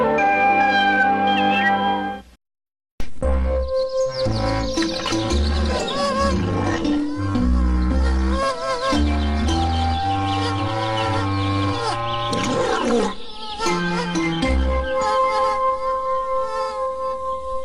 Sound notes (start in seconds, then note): 5.8 insect buzzing